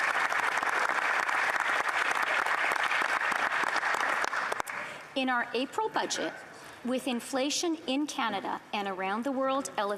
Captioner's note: applause